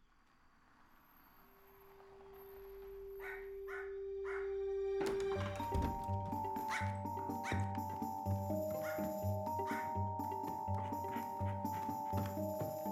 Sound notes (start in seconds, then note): 2.0 car approaches; 4.2 dog barks; 8.7 barking continues